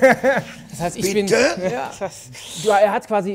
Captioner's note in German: Lachen